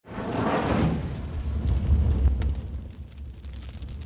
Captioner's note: fire crackling